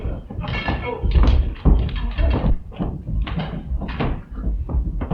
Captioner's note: furniture clattering